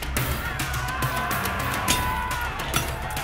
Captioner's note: tense instrumental; shouting